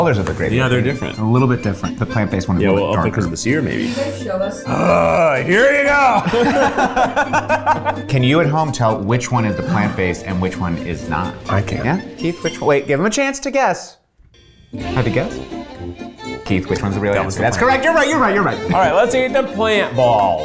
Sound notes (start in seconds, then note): 4.5 groans; 4.6 both laugh